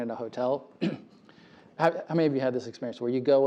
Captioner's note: cough